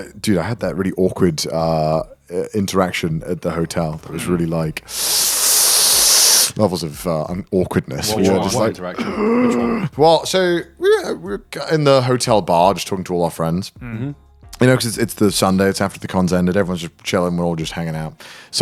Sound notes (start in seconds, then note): 4.8 gasping; 8.9 gasping